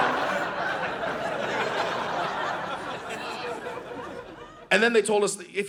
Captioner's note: audience laughing